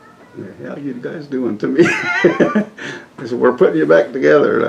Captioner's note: laughs